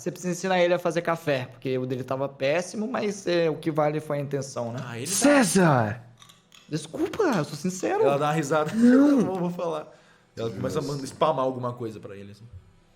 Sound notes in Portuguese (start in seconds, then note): 8.6 risos